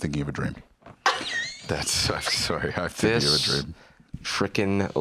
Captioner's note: laughs